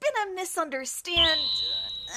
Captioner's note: ding!